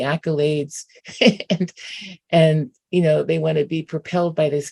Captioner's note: chuckles